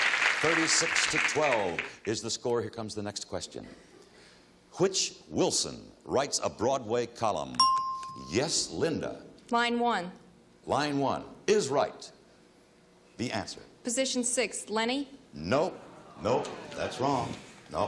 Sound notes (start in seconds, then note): 7.6 bell chimes